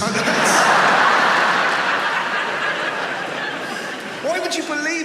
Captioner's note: audience laughs